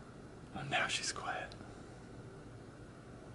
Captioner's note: whispering